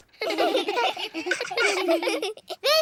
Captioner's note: all giggle